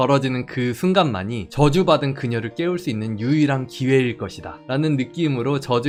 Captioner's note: voiceover